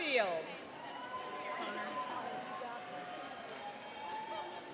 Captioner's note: cheering and applauding